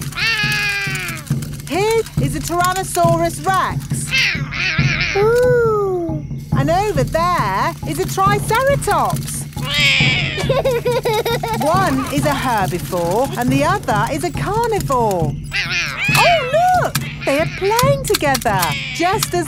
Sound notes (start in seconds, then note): 0.1 roaring; 4.7 roaring; 9.6 laughs; 9.6 roars